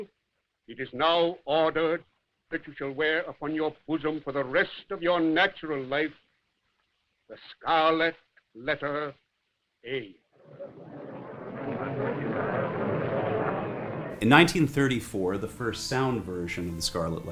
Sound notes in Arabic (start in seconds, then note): 11.1 ثرثرة الحشد